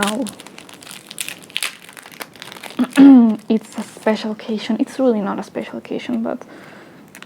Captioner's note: clears throat